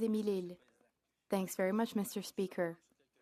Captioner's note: speaking French